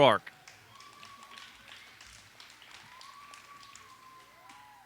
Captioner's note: audience applauds